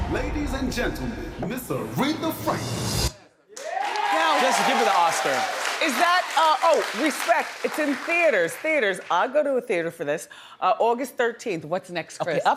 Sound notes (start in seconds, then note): 3.5 audience cheering